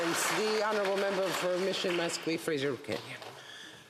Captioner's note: applause